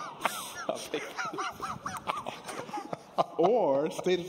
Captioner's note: laughter